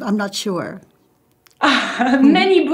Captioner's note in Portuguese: risos